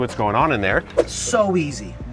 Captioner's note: whooshing